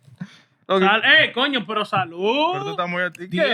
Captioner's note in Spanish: Hablando en idioma extranjero